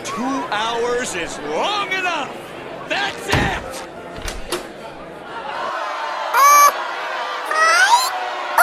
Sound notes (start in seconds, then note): 4.1 door opens